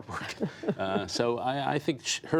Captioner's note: laughter